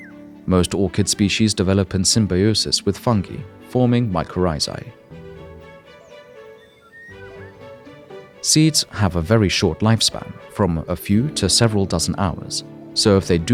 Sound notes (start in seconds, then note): 0.0 birds singing; 6.3 birds singing